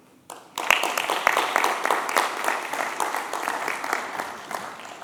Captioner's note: applause